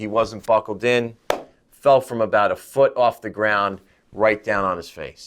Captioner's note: claps hands